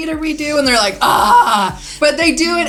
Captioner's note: groans